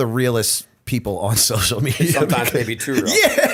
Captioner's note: chuckle